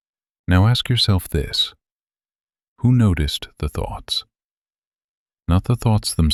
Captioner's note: short pause